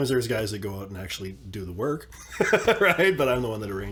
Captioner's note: laughs